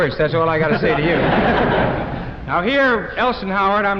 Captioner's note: laughter